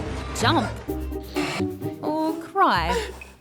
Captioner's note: gasps